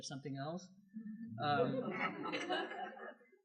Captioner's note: laughter